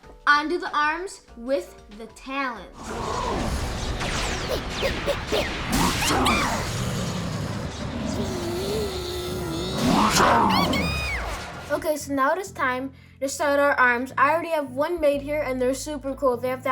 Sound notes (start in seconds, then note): 4.2 laser zings; 8.7 Pikachu strains; 11.1 Pikachu shrieks